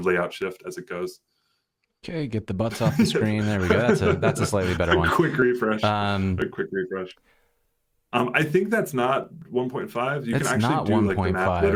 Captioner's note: laughter